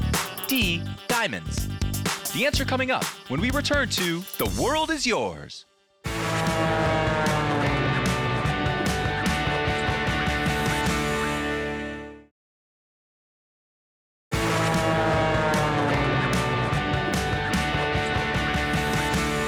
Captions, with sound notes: D, diamonds. The answer coming up when we return to The World is Yours. (engine whirring) (upbeat music) (engine whirring) (upbeat music)